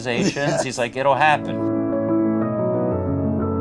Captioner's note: laughs; calm piano music